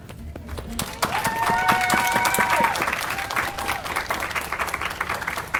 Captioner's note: audience applauding